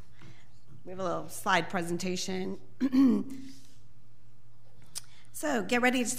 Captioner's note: clears throat